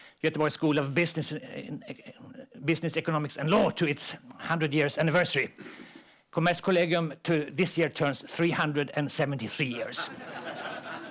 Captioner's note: laughter